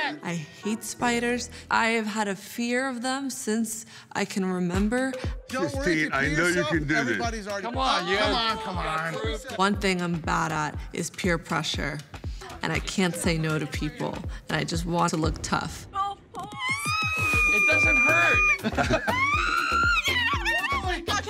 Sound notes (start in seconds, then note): 16.4 squeals; 18.9 Sylvester laughs; 18.9 screams